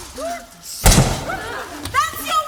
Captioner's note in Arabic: طلقة مسدس